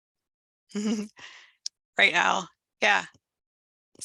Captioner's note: chuckles